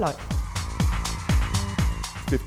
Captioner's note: cheering